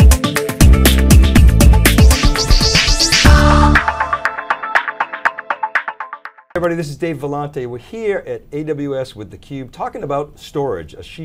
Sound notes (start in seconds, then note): 1.8 whooshing; 3.4 upbeat music